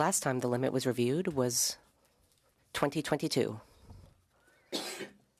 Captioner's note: speaking French